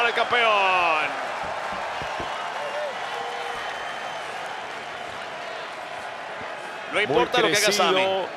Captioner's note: applause